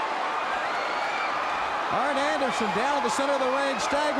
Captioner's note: crowd cheering